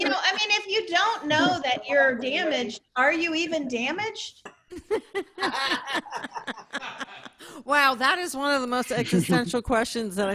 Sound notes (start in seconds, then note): 4.7 laughter